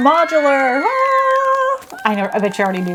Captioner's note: cheering